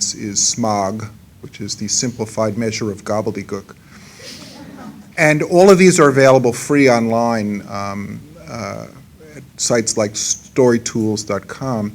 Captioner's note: laughter